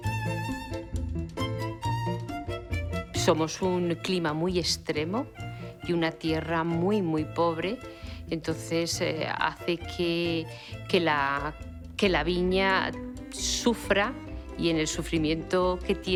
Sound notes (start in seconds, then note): 0.0 playful violin music; 3.1 speaking Spanish